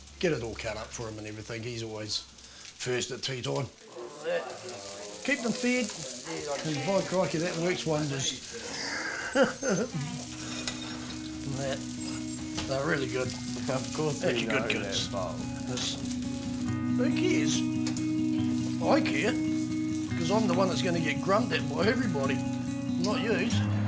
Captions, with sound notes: get it all cut up for him and everything. He's always first at tea time. - What's that? - Keep them fed. And by crikey, that one works wonders (chuckles) And that, they're really good. Who cares? I care, because I'm the one who's going to get grunted at by everybody, not you.